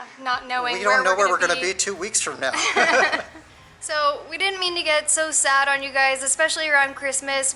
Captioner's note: laughter